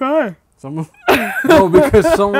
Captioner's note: laughs